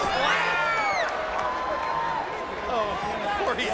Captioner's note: crowd clamoring